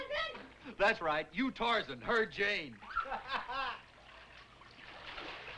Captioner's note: laughs